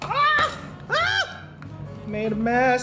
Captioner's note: screaming